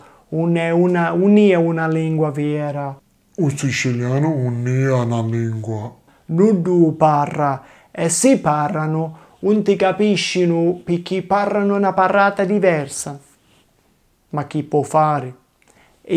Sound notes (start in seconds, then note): 3.3 goofy voice